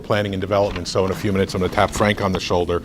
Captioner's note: rustles papers